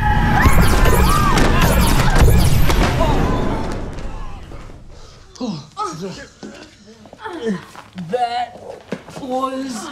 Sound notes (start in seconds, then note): 0.3 portal whooshing; 2.9 groaning